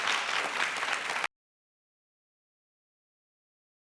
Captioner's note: applause